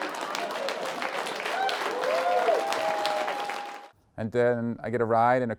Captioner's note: audience cheering and applauding